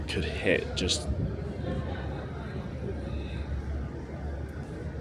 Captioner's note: crowd chattering